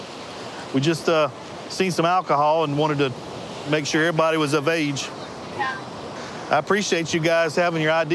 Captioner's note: none